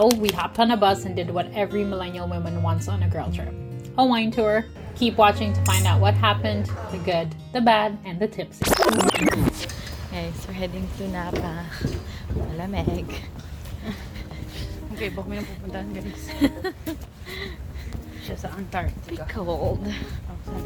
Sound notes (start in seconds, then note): 16.2 laughs